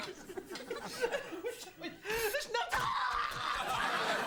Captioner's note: laughter; screaming, squelching; audience laughter